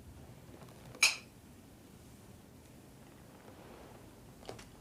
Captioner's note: glasses clink